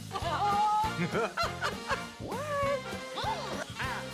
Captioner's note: laughing